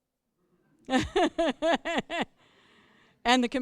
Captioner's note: laughter